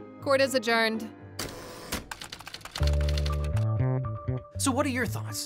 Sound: typewriting clicking

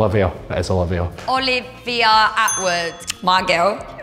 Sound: correct bell

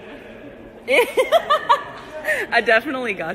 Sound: laughs

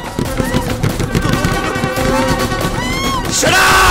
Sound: screaming

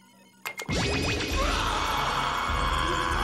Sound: screaming

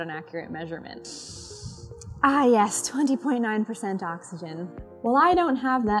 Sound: inhale

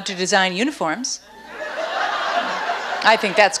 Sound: audience laughs

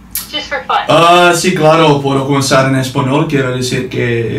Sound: spanish

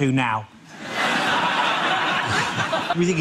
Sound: audience laughs

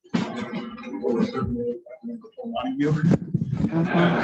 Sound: chattering

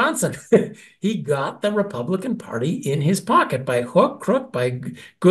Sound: laugh

